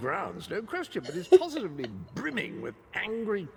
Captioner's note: laughs